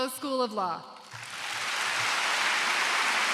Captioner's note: applause